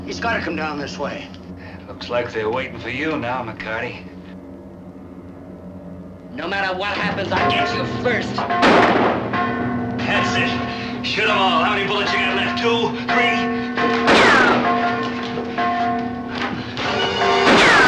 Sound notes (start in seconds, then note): 8.4 gun firing; 8.6 bell ringing; 14.1 gun firing; 16.9 suspenseful music